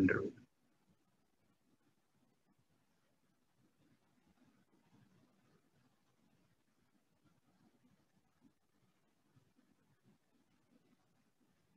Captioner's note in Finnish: hiljaisuus